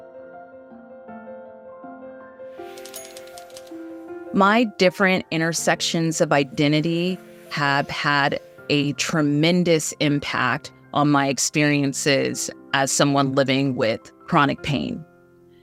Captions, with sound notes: (keyboard clacking) My different intersections of identity have had a tremendous impact on my experiences as someone living with chronic pain.